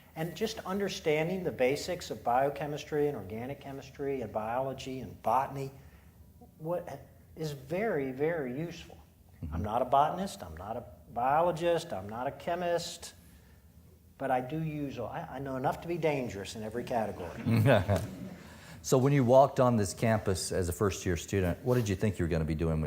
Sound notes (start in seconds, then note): 17.3 audience laughing